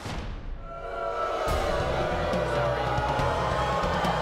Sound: audience booing

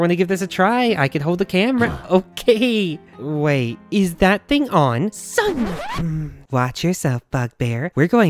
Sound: grunt

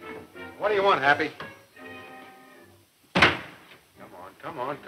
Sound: door closing

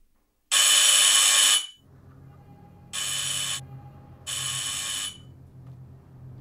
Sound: buzzer

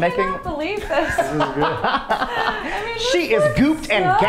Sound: laughing

